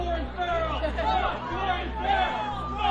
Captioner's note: all chanting